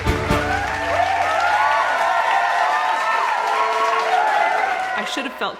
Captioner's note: applause